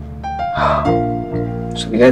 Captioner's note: Sighs